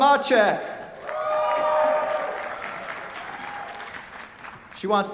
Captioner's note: cheers, applause